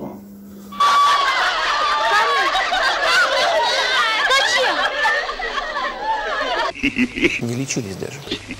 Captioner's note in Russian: смех